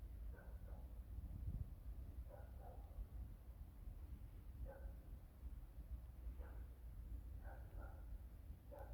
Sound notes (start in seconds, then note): 2.3 distant dog barking